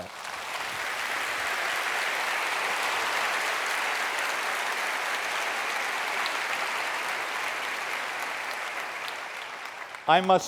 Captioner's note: applause